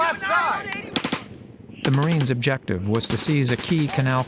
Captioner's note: gunfire